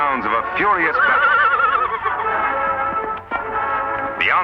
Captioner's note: neighing